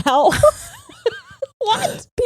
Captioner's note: both laughing